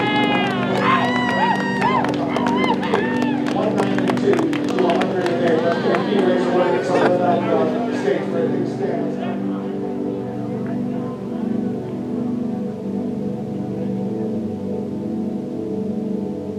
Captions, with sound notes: - Yeah! - Woo, woo, woo! (crowd clapping) (man laughing) (soft music)